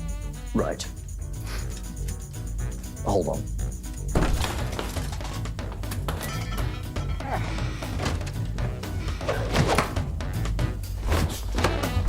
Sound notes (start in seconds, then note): 4.1 clattering